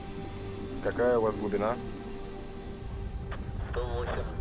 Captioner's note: man speaking in foreign language; speaking in foreign language; man speaking in foreign language